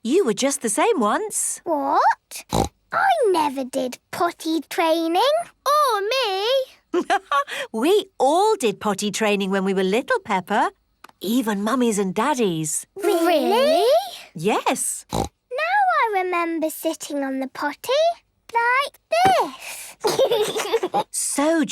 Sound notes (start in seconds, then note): 2.4 snorts; 7.2 laughs; 15.0 snorts; 19.6 giggles